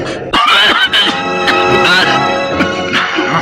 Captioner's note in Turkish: Öksürükler